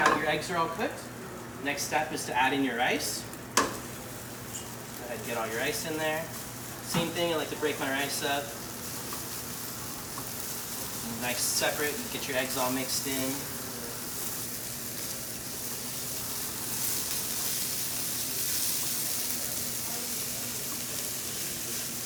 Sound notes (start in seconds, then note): 3.6 bowl thunks against pan; 8.9 ingredients sizzle loudly in the pan; 13.6 ingredients sizzle loudly in the pan